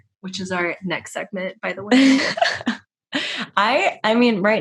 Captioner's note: laughter